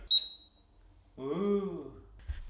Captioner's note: beeping